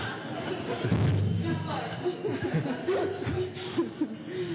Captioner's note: laughing